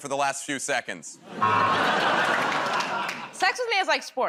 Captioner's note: laughter, buzzer